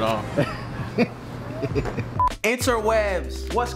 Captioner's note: laughs